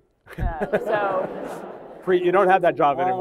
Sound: laughter

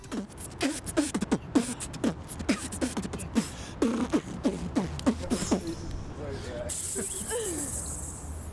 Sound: beatboxing

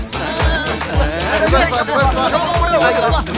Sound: clamor

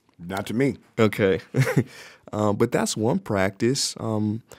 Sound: chuckles

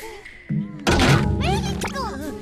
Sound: door cracks

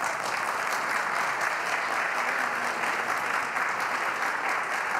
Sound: applause

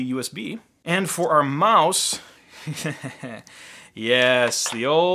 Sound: laughing

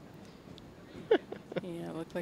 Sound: laughing

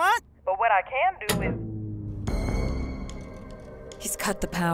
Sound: eerie music; lights click

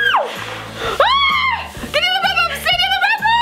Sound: screams

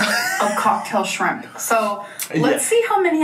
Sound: laughing

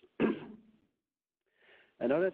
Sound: clears throat

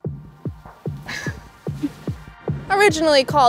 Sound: laughs

